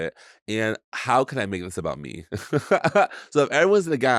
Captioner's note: laughs